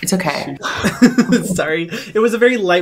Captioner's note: laughter